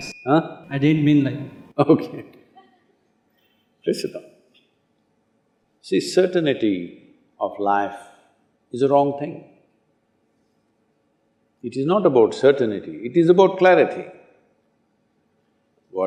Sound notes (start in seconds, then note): 1.9 laughs